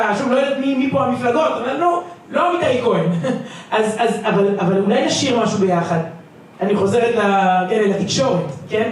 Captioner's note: laughter